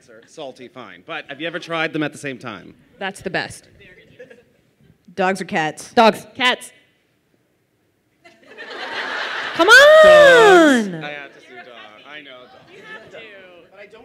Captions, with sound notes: - That's not an answer. - Salty, fine, but have you ever tried them at the same time? - That's the best. Dogs or cats? - Dogs. - Cats. - (laughter) - Come on! - Dogs, I have to say dogs.